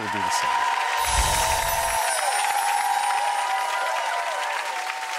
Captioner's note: audience cheering and clapping